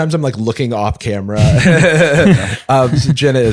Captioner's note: laughs